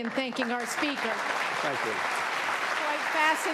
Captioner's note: audience applauding